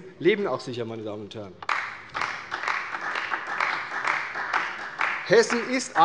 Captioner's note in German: Beifall bei der CDU